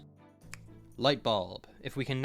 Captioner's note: finger snap